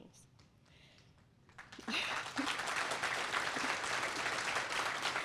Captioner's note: applause